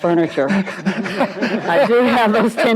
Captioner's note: and audience laughs